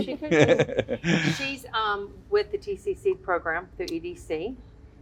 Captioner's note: laughter